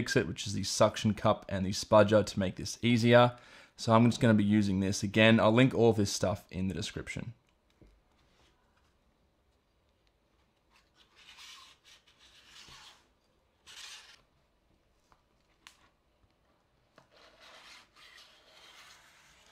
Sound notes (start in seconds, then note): 13.6 spatula screeching